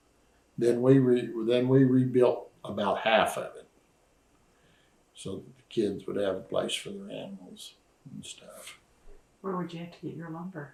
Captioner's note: laughs